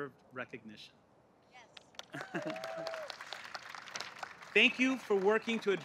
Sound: applause

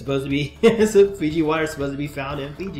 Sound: laughs

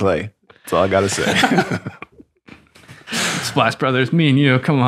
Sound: friars laugh

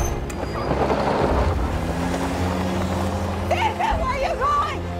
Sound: revving engine

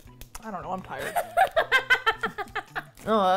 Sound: laughs

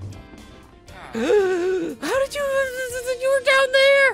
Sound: gasps; villager hums

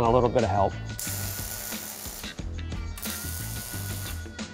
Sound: buzzing

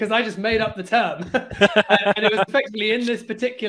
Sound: both laughing

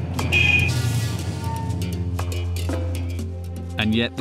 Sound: dramatic music; car horn honking

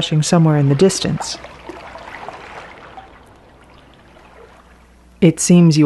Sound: water gushing faintly

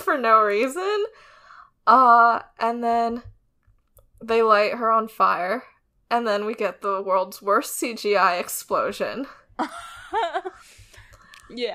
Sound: laughs

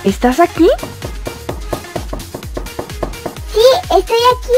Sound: knock

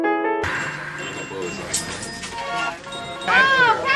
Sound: idk man. checkout noises

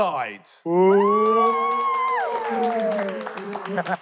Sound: contestants cheering; laughing

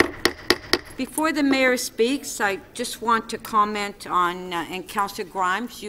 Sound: gavel

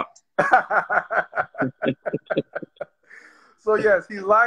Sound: laughs

